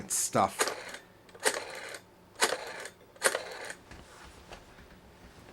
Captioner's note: rotary phone dialing continues